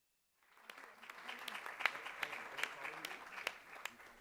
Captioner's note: applause